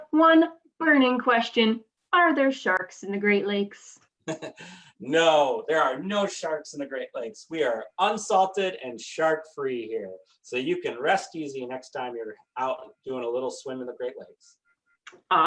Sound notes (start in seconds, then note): 4.3 laughs